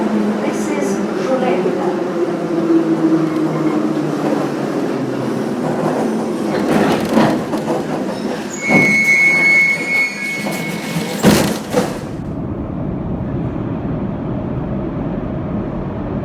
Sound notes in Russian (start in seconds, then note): 9.9 открытие дверей